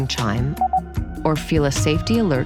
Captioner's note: beep beep